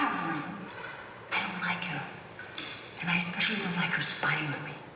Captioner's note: none